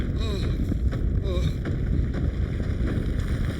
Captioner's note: Larry groaning